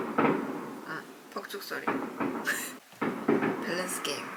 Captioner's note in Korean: 온밤 함께할 폭죽소리